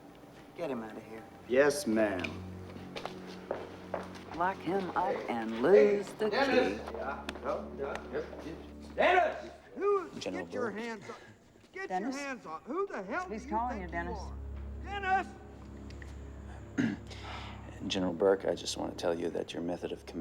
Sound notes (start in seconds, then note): 6.6 stammering